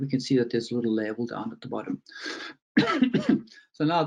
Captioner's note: coughs